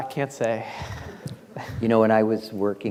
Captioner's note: class laughing